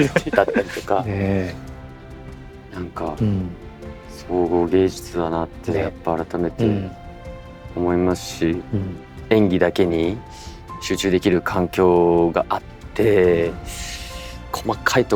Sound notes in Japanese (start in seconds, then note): 0.0 笑い; 12.7 鼻息